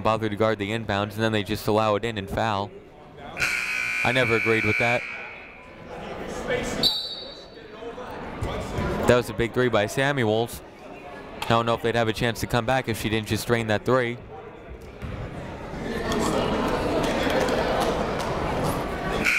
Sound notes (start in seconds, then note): 3.4 buzzer ringing; 6.8 whistle tweeting; 16.1 people talking in the crowd